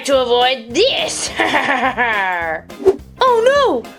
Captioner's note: laughs